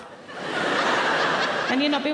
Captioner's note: audience laughing